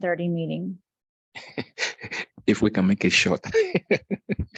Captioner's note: chuckle